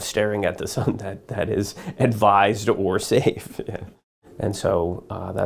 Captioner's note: laughs